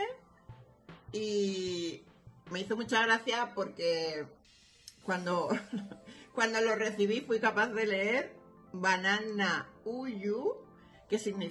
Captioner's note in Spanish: sonido: risa